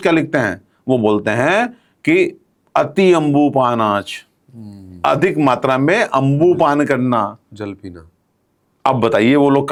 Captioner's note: liquid drinking